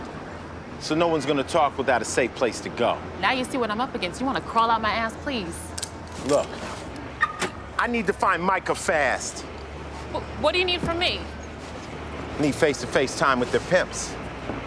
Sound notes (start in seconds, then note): 7.2 alarm beeps